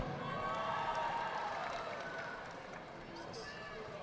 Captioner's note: audience applauding